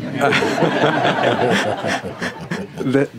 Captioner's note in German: Lachen